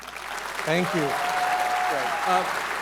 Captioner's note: audience cheering